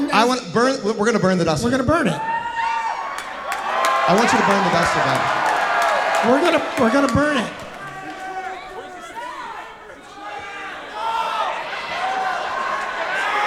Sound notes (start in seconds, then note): 2.8 audience cheering; 8.2 audience shouting